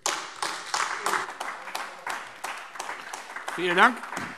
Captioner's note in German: Beifall AfD